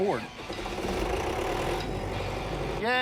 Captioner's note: generator starting